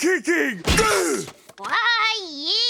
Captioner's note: grunting